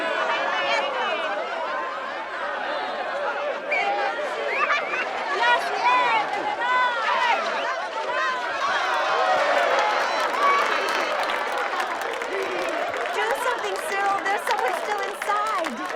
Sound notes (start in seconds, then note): 8.8 cheering